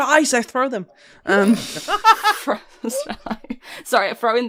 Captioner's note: laughter; laughing